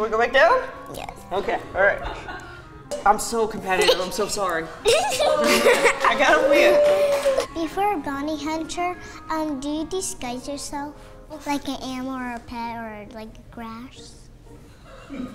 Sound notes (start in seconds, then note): 4.8 laughing